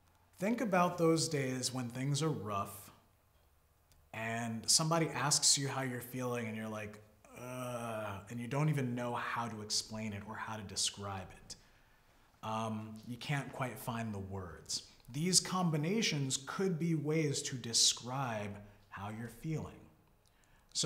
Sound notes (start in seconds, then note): 7.3 groans